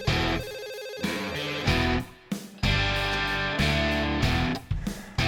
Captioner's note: upbeat music continues; cellphone ringing